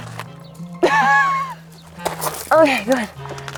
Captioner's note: laughing